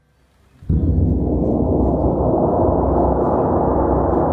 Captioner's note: gong sounds